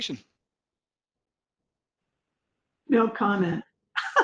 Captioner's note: laugher